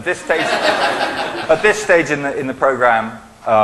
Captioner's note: laughing